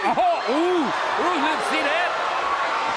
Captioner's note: crowd cheering